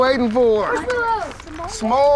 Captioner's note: kids mumbling